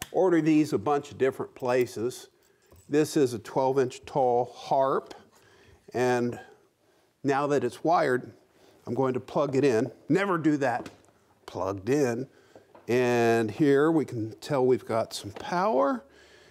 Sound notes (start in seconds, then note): none